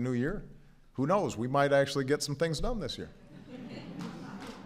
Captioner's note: laughter